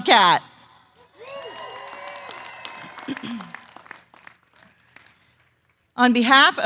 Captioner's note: applause